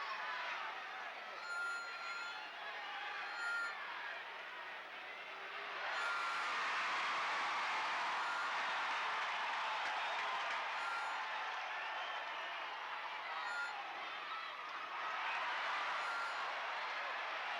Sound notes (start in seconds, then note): 6.8 crowd cheers